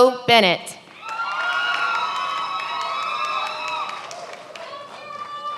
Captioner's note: many applauding